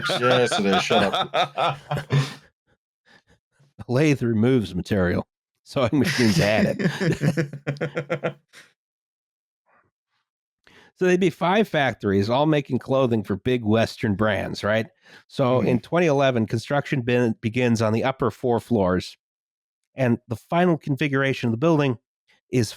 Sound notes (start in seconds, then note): 0.0 laughs; 6.0 laughter